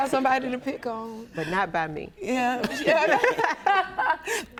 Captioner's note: laughs